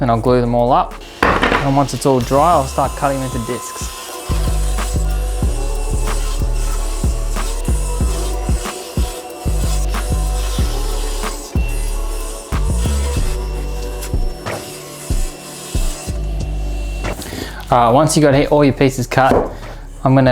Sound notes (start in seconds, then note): 5.1 chill music; 5.1 saw whirring